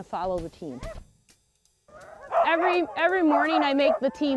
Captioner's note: sled dogs barking